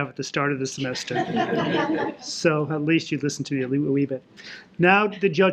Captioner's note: laughter